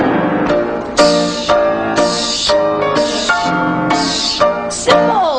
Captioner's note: dramatic jazz music; Velma vocalizing